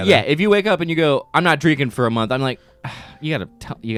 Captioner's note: sighs